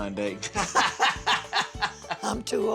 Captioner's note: both laughing